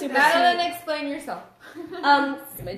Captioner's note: laughs